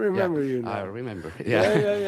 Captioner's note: laughs